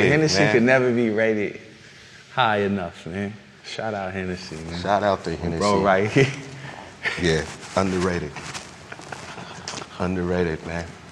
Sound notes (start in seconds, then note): 8.8 laughs